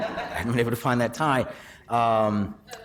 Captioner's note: laughing